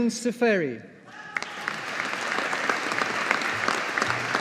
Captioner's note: audience applauding